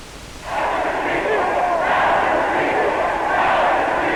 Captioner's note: crowd